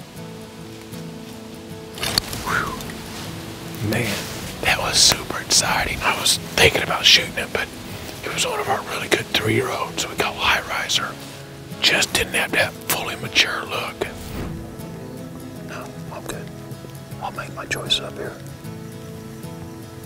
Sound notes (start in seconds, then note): 1.7 whispering; 14.8 whispering